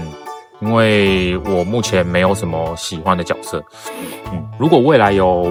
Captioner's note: sniff…